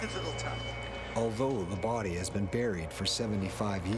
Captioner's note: voiceover